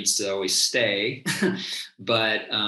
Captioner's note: chuckles